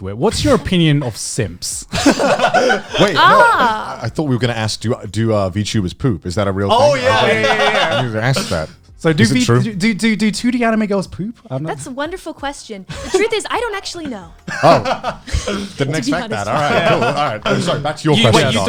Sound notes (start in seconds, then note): 1.9 laughs